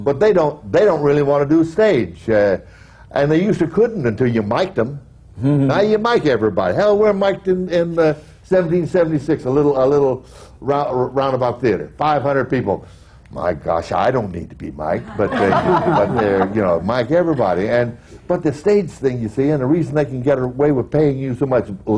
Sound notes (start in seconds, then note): 15.0 laughter